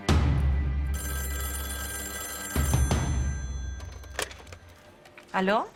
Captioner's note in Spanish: Suena el teléfono